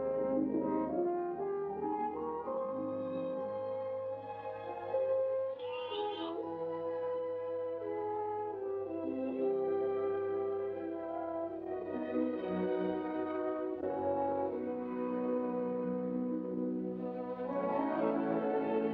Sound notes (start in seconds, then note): 0.0 sad, romantic music; 5.6 lamb bleats; 6.8 sad, romantic music